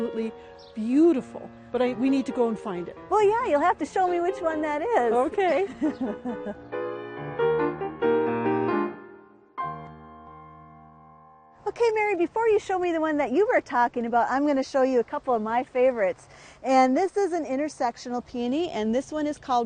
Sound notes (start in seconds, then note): 5.3 laughing; 10.8 soft piano music